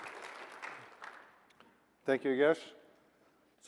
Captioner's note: applause